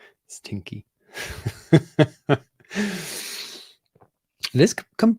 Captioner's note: laughs